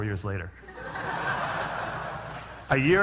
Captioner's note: laughter